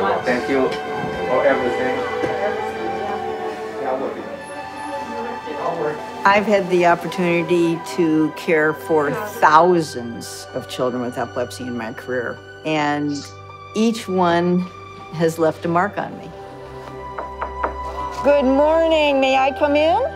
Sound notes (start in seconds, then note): 17.1 knocking